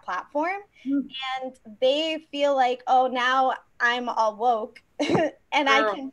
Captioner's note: chuckles